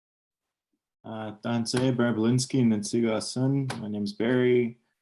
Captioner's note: speaking Cree